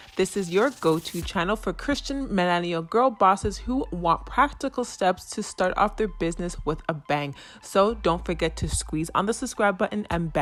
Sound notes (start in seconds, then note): none